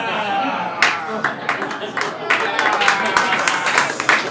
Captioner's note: crowd clapping